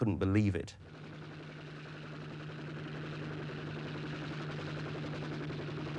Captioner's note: helicopter engine whirring